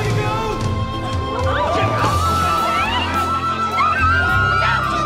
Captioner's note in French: en hurlant